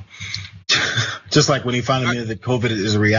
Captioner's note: laugh